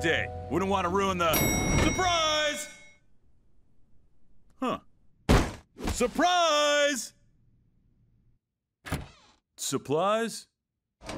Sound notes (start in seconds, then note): 0.0 elevator dings